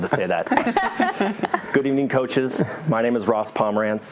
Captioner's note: laugh